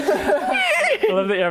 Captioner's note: lizard whinny